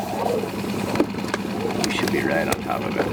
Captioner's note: rope whistling